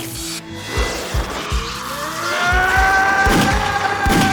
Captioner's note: yells